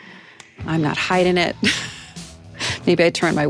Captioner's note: laughs